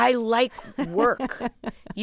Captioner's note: laughter